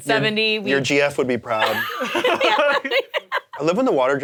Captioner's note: both laughing